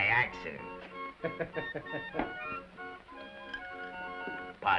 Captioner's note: waiter laughs